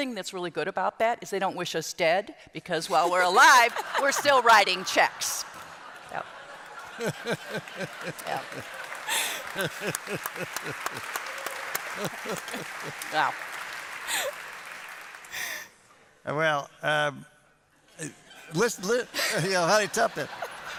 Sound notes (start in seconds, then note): 7.4 applause and laughter